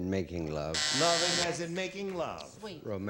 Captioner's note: buzzer